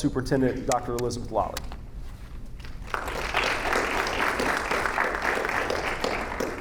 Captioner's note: audience applauding